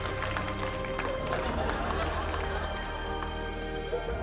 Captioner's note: applause; majestic music